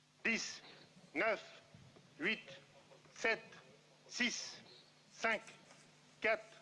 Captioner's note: speaking in foreign language